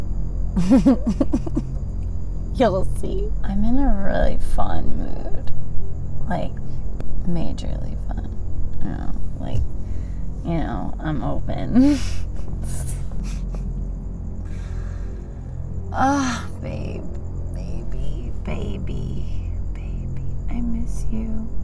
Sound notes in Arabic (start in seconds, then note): 0.6 ضحكة مكتومة; 11.8 يضحك